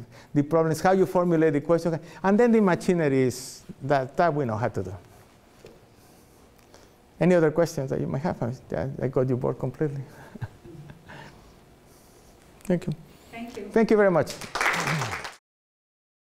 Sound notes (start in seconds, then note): 10.2 laughs; 14.2 applause